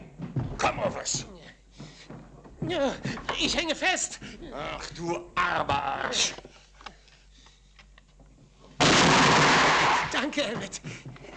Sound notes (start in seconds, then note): 8.8 gun fires